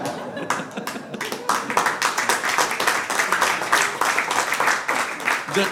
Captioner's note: applause